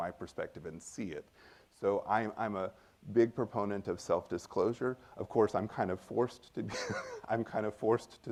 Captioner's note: laughs